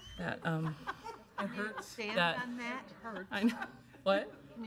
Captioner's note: laughing